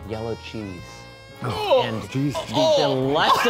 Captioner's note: retching